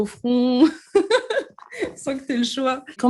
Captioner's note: laughs